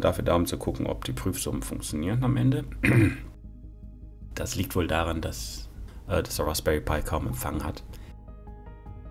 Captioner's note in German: räusper